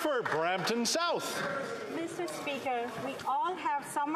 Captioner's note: applause